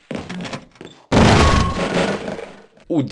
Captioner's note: door breaking